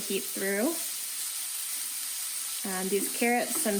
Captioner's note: sizzling